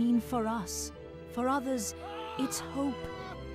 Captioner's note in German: Mann schreit